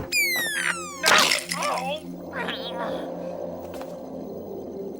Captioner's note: door opening and squeaking; groaning